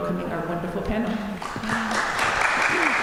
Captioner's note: applause